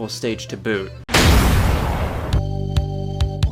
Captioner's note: object smashes; upbeat music